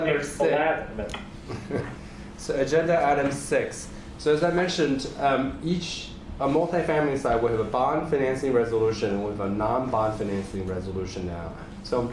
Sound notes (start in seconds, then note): 0.0 laughs